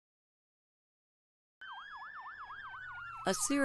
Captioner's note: siren